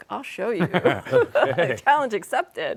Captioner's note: laughter